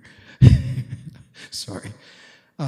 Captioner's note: chuckles